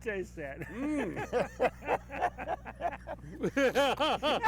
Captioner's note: laugh